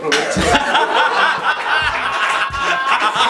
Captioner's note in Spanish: Risas